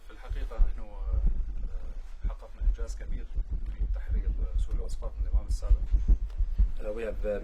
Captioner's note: speaking Arabic